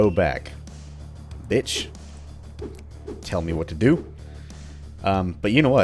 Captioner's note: whiff